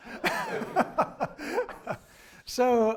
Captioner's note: laughing